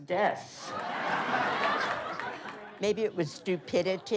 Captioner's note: laughing